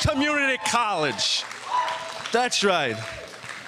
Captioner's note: audience cheering